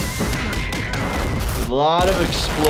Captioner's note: building exploding